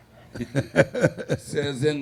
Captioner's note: audience laughing; laughing